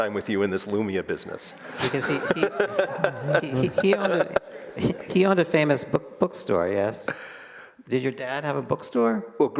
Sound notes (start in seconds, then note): 1.8 all laugh